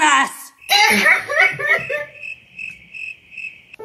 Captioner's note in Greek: κλαίει